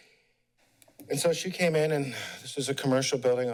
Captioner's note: pause; sigh